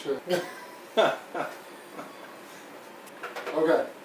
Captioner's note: laughing